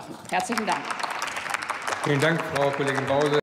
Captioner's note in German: Applaus